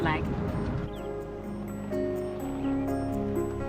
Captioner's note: birds chirping; calm music